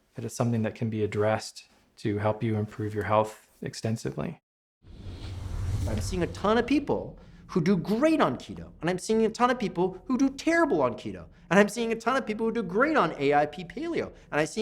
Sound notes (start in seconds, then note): 4.8 whooshing